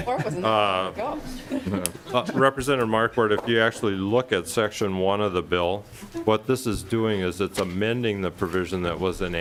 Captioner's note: lauging